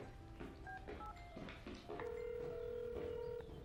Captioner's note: phone ringing tone